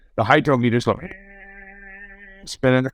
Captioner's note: whirring sound